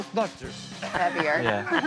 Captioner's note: all laughing